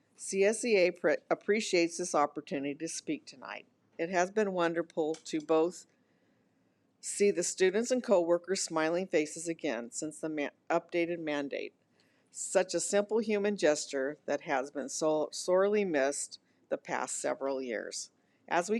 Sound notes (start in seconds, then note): none